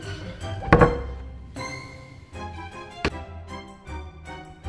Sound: door closes

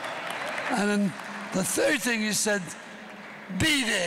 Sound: applause

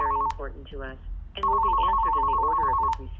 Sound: phone ringing

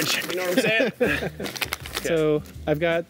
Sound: laughs

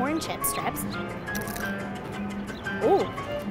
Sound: crunches loudly

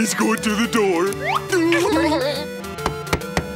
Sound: laughing

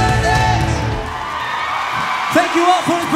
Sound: audience cheers

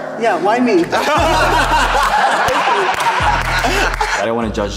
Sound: group laughing and clapping

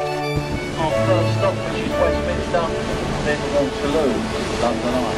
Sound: voiceover

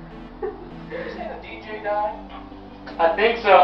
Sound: on Radio

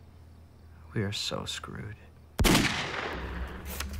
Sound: gunshot

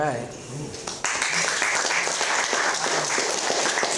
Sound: applause

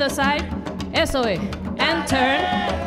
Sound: speaking in Spanish

